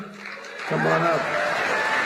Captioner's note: applause